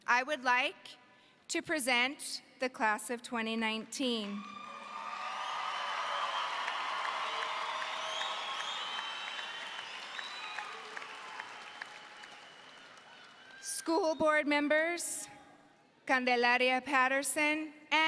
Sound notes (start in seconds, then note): 4.8 audience cheers